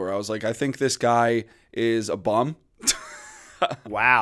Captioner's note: chuckle